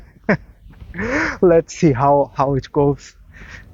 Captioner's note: laughs